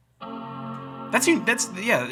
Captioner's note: buzzing